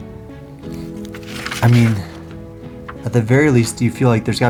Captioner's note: pages turn